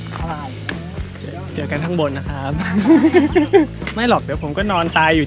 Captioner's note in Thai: ขำ